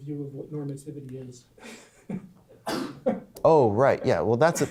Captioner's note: voiceover; laughs